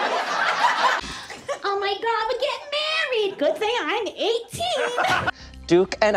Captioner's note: audience laughter; imitating a young, NY girl